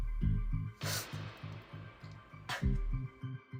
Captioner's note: Ricky crying